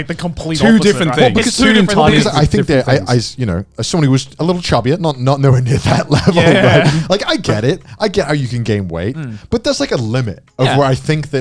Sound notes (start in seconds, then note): 5.7 chuckling